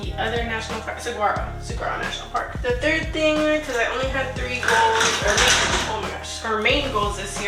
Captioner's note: stuff falling